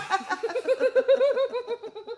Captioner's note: laughing